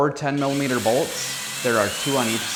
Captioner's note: drill whirring